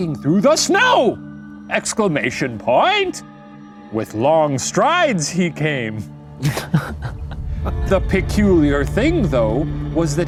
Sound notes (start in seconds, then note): 6.4 laughing